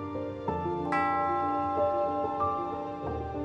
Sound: bell ringing; sad piano music plays

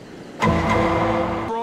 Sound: Law & Order: SVU Sound Effect

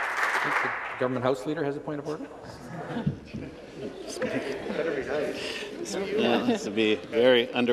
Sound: applause

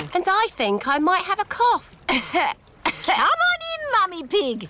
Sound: coughs

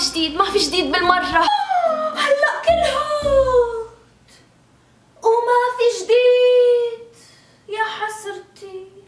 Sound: ghasp

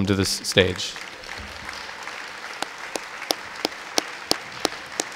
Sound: audience applause

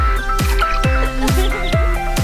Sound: giggling

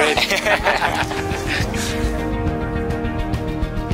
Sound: both laugh

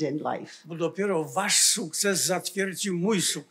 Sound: foreign language

